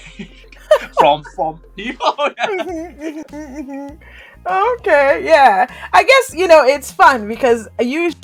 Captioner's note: laughter